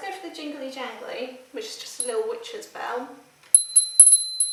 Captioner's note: jingling bell